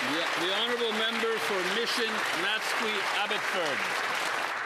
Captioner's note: applause